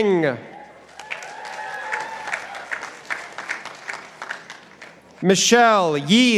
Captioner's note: participants applauding